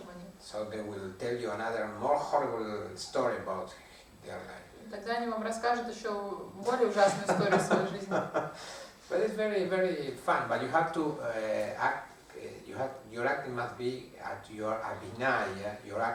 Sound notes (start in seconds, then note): 7.2 hahaha